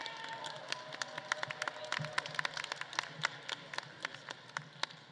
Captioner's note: audience faintly cheering